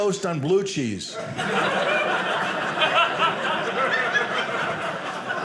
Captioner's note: audience laughing